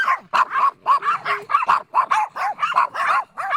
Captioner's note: dogs barking